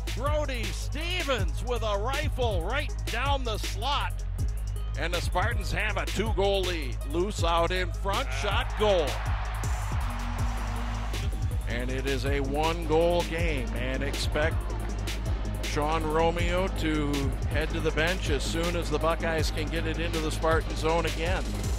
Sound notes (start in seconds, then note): 7.9 crowd cheering